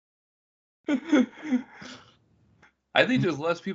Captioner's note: laughing